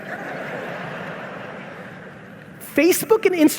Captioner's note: audience laughing